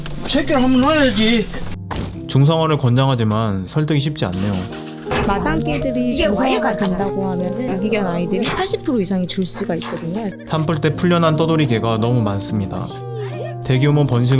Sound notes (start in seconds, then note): 1.9 bang!